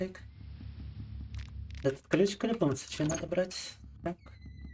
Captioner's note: speaking in Russian